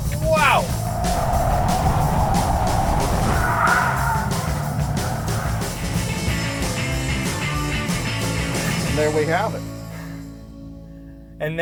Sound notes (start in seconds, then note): 3.8 tires screeching; 6.3 upbeat music